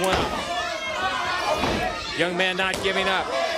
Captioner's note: crowd chatter